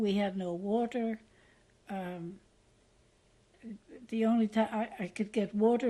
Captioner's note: pauses for 3 seconds